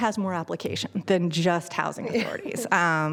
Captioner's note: laughter